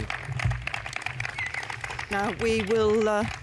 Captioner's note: applause